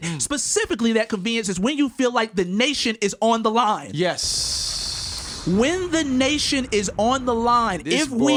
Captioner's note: explosion